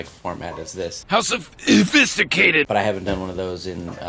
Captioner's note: burp